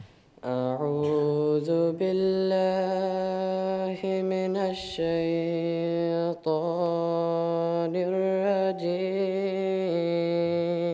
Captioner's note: Arabic recitation, Holy Qur’an 29:42-46